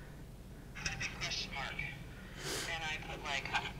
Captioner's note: recorded Voice